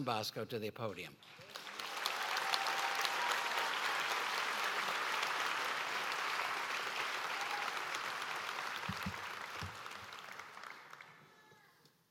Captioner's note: applause